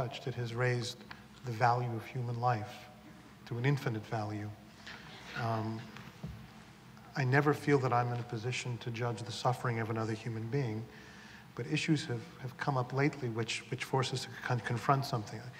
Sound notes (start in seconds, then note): none